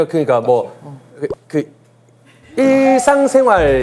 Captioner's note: hesitant